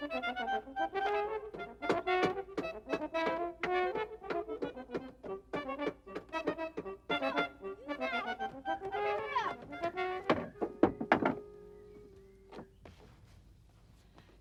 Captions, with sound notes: (hammer thudding) Tom, are you there? Open it up.